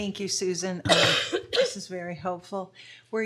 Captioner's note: coughs